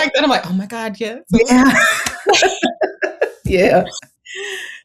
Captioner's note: laughs